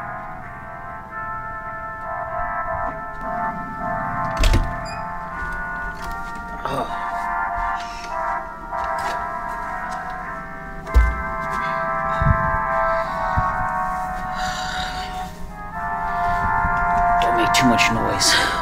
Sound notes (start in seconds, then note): 4.2 door opens